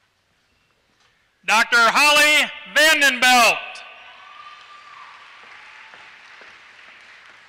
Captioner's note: applause